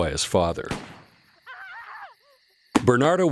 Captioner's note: scream